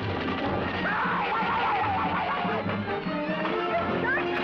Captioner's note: screaming